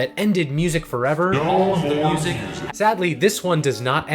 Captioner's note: distorted voice